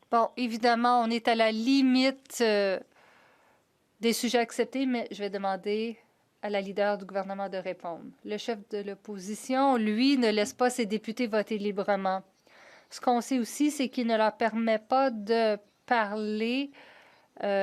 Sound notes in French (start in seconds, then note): 4.9 voix de l'interprète